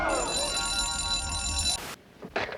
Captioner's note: alarm rings